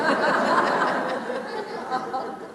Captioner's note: laughter